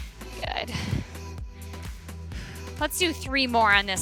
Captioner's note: exhales